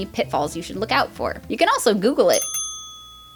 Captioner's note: ding